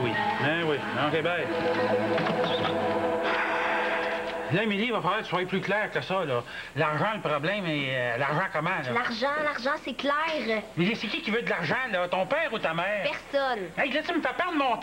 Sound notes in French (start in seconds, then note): 3.2 Il soupire